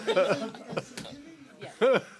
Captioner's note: laughter